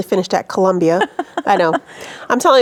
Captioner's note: laughing